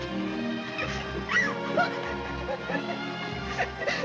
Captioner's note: Annie crying